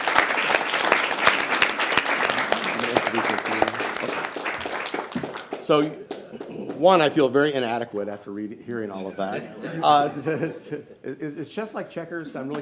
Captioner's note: applause